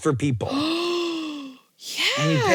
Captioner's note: gasps